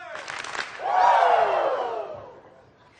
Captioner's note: hands clapping